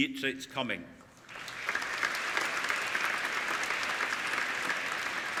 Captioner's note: applauding